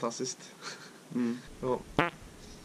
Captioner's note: farts